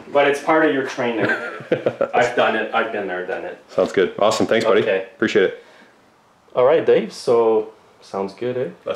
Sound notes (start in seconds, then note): 1.1 laughing